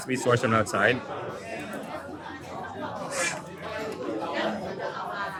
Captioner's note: people chattering